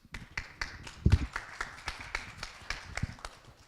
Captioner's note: applause